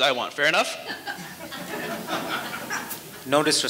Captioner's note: audience lightly laughing